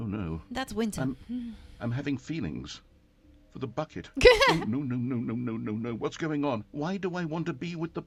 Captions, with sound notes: That's winter. [laugh]